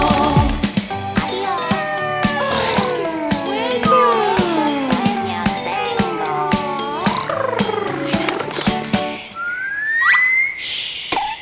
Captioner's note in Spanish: Sonido de animales